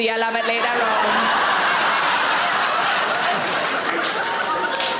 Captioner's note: audience laughing